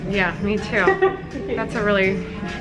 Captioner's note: laughs